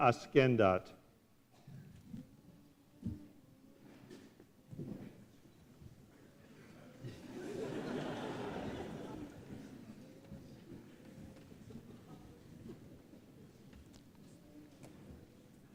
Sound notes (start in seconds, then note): 7.0 laughter